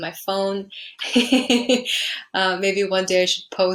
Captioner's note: laughing